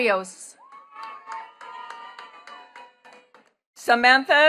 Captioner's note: attendees cheering and clapping